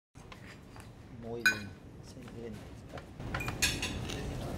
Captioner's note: foreign language